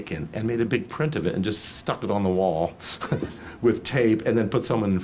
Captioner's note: laughs